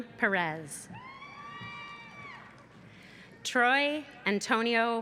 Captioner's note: cheering